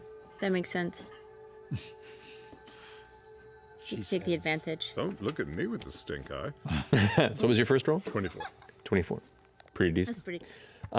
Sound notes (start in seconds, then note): 1.7 laughter; 6.7 laughing